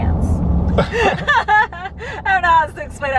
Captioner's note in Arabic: كلاهما يضحك